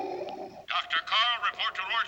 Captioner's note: man Over Speaker